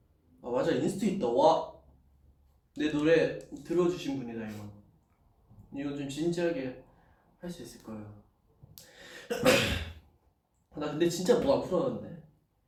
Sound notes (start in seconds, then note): 9.2 cough